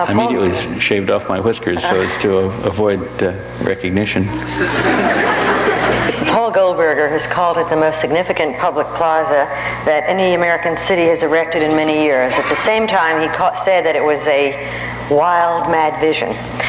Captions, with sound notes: Immediately shaved off my whiskers so as to avoid recognition. (audience laughs) - Paul Goldberger has called it the most significant public plaza that any American city has erected in many years. At the same time, he said that it was a wild, mad vision,